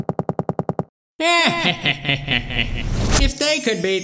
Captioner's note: dimentio laughs